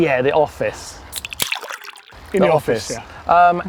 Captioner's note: can opening